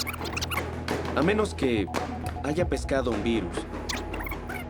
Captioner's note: voiceover